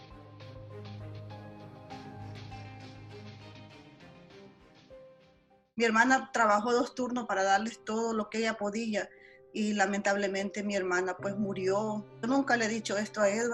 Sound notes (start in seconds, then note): 5.9 speaks Spanish